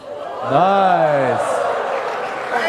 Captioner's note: applause